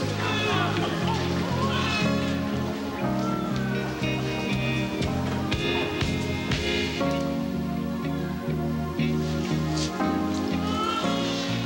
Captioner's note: babies cry